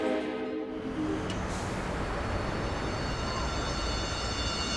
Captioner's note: harp Music; train Whistle